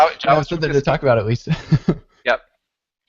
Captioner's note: laughs